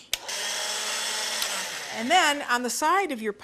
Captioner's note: motor whirring